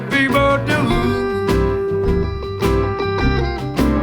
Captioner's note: none